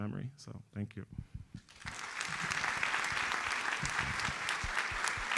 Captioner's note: audience applauds